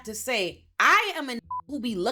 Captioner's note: beep